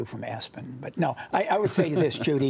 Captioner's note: laughter